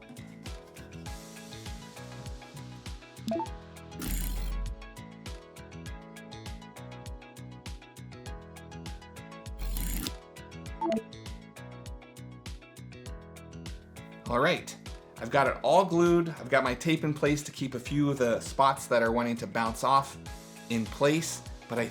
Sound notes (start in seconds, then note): 0.1 upbeat guitar, electronic music; 3.3 soft electronic chimes